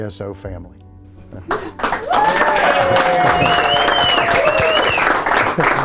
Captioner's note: officers cheering